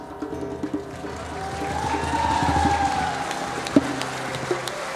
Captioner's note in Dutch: applaus en gejuich